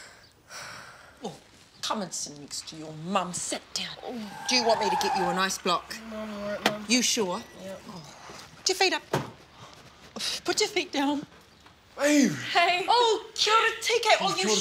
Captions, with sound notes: - Oh, come and sit next to your mum, sit down. Do you want me to get you an ice block? [Tires Screeching] - No, I'm alright mum. - You sure? - Yep. - Oh, put your feet up. Put your feet down. - Hey! [Exclaims In Maori]